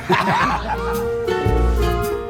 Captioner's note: laughs; gentle music